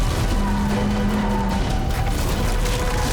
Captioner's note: tires squealing